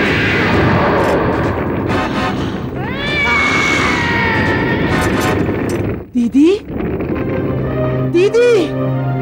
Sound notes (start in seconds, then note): 2.8 cat yowling